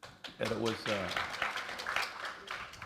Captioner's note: applause